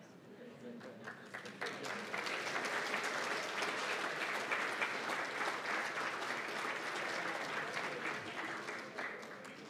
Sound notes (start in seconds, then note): 0.8 applause